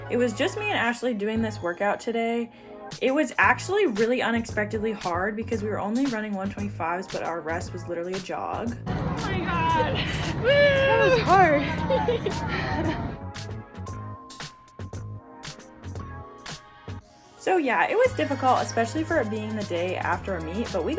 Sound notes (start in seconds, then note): 11.9 camera person laughs; 11.9 chuckles